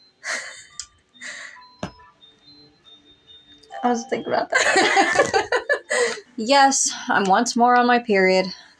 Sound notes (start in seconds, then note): 0.2 chuckle; 4.5 both Laugh